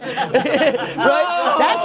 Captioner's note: laughing